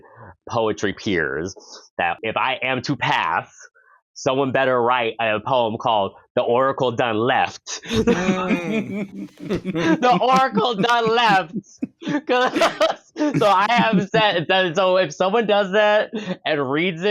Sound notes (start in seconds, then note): 7.8 vocal appreciation; 11.2 laughing